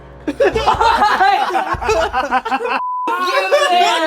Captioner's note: all laughing